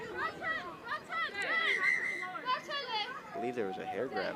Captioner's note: onfield chatter; whistle blows